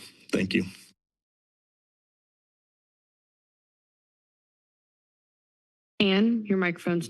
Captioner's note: silence